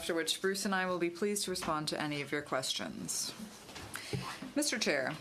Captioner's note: speaking in french